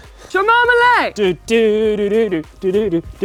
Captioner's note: humming